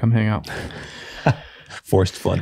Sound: all laughing

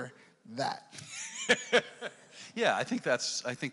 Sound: laughs

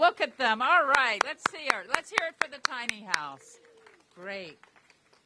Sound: applause

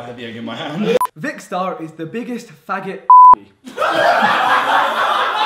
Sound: beep; laughing

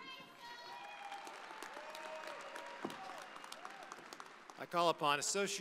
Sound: audience applauding

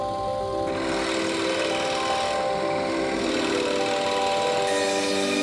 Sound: gentle instrumental music; machine whirring; blade whirring

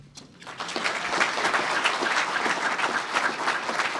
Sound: applause

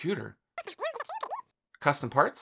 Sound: cartoon speaking

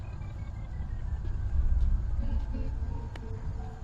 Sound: faint footsteps

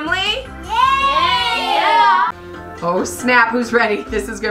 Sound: children in Unison

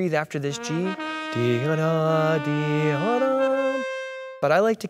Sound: he hums

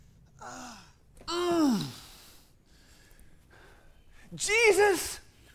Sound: Mark groans

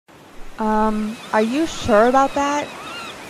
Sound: seagulls and waves in background

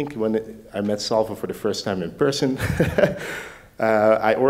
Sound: laughs

